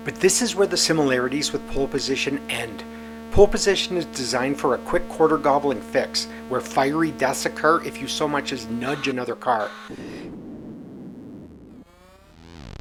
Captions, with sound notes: But this is where the similarities with Pole Position end. Pole Position is designed for a quick, quarter-gobbling fix, where fiery deaths occur if you so much as nudge another car. [explosion]